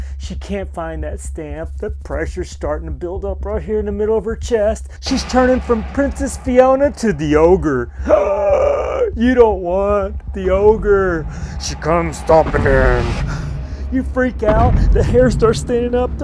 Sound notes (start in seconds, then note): 7.9 gasping